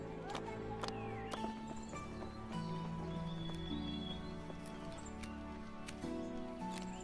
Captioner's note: gentle upbeat music; birds singing